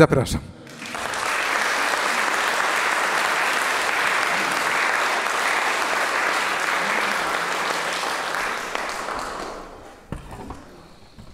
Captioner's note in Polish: aplauz